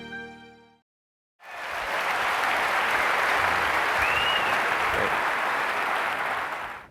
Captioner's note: applause